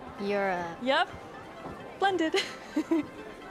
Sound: chuckles

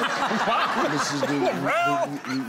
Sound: laughing

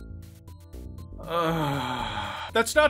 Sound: a long, defeated sigh

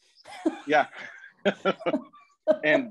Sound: laughter

